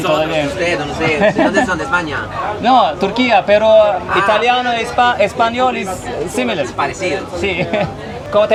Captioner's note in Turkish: kahkaha